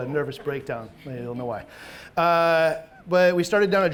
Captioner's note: audience chuckling